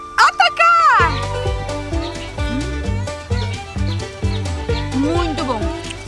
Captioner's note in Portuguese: Pássaros